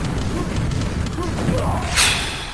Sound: exhales

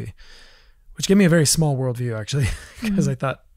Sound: laughs

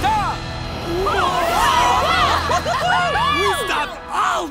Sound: cheering

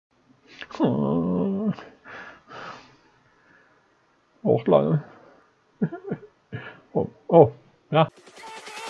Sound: whimperes

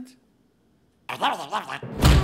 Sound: affirmative grunts

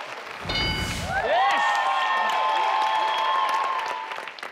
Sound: audience cheering

